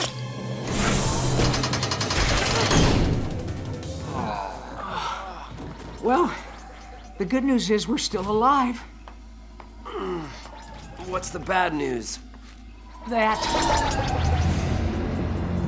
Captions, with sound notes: [groaning] Well, the good news is we're still alive. What's the bad news? That...